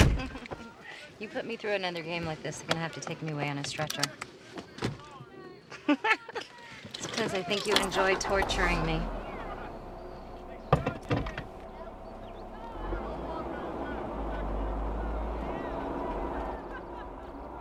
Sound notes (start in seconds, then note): 0.0 chuckling; 5.7 both laughing; 9.0 engine starting